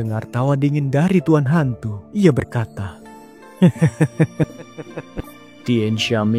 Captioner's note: laughs